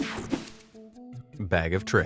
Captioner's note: slide whooshes